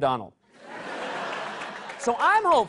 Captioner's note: laughter